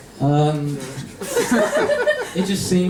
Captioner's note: laughter